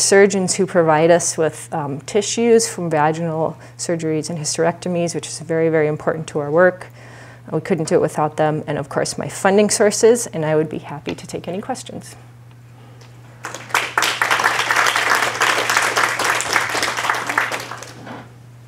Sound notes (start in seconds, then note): 13.4 applause